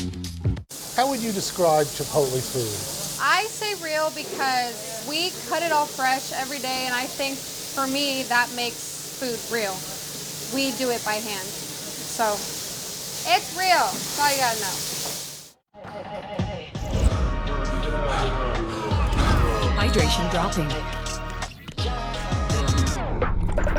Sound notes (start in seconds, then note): 18.5 breathing heavily; 20.9 computer voice